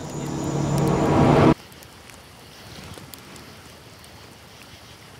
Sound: campfire crackles

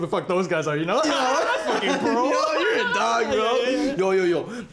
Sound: laughing

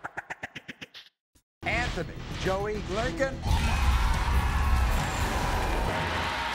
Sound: audience cheers

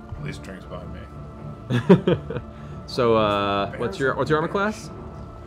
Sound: chuckles

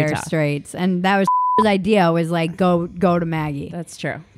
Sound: beep

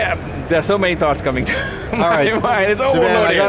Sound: laughs

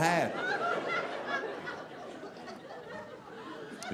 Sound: audience laughing

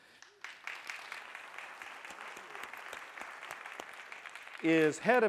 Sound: applause

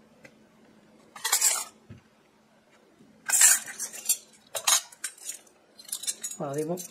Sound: sound of silver clinking

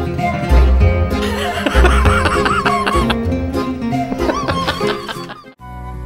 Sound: laughter

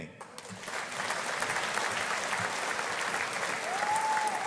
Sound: audience applauding

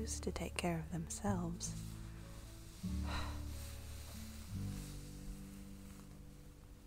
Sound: sighs

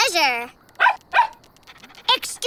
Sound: barking

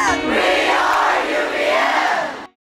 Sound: crowd

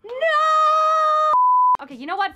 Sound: beep

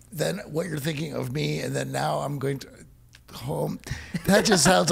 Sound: laughs

